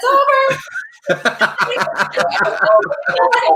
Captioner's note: laughing